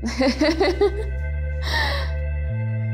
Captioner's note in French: rire